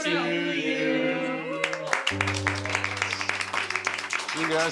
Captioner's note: crowd cheers and applauds